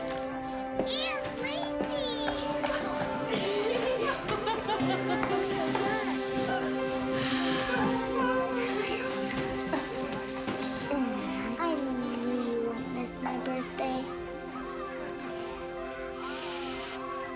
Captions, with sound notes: - Aunt Lacey! (laughs) I knew you wouldn't miss my birthday.